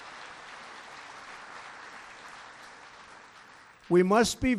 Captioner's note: applause